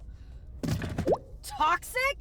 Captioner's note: phone rattles; text bubble pops